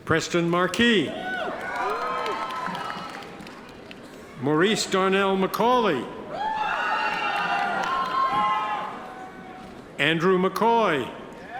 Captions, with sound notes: Preston Marquis. Maurice Darnell Macauley. (audience members cheer) Andrew McCoy.